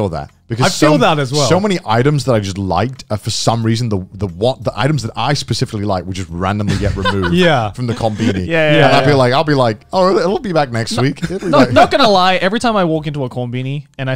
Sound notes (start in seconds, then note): 6.7 laughing